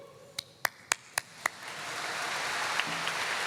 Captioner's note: applause